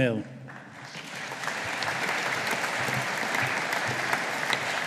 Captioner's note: audience applauding